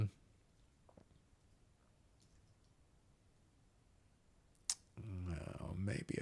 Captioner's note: silence